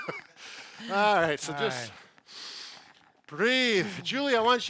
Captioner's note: both laughing; breathes deeply